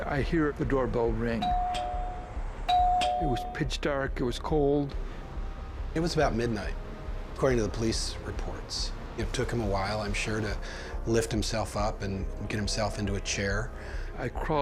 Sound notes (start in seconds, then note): 1.4 doorbell